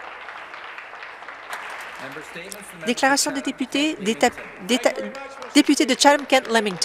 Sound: applause

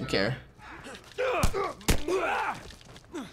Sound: both grunting

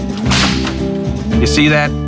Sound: whip crack

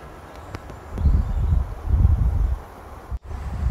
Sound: wind blowing

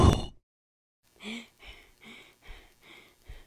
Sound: panting

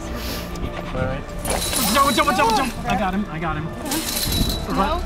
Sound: growl

